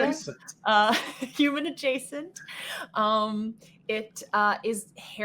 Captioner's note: laughs